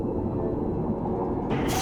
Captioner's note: thud sound